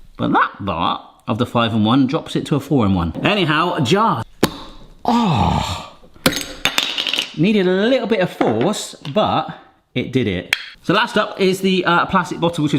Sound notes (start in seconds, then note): 4.3 lid popping; 6.2 lid dropping